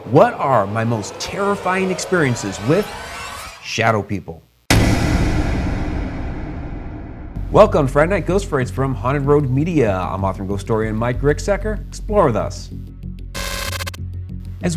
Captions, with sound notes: - What are my most (scary music) terrifying experiences with shadow people? (echoing bang) Welcome, Friday Night Ghost Frights, from Haunted Road Media. I'm author and ghostorian, Mike Ricksecker. Explore with us. (spooky static)